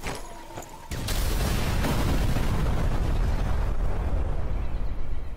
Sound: supply cache exploding

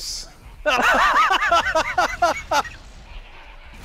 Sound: laughter

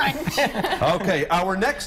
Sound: laughter

